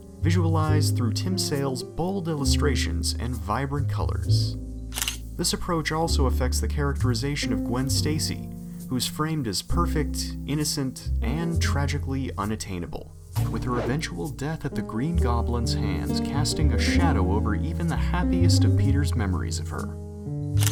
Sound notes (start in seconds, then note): 4.9 camera shutter